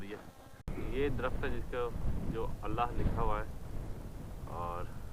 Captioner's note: in Arabic